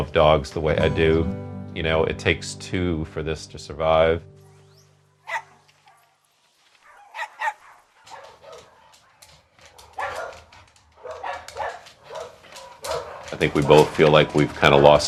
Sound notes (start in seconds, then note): 7.5 dogs barking